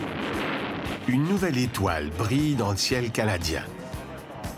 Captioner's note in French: détonation